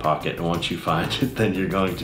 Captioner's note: laughs